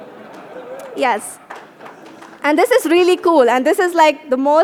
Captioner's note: laughter